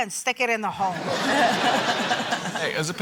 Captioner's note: laughter